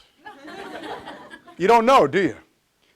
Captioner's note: audience laughs